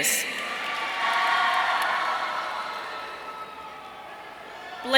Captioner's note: audience cheering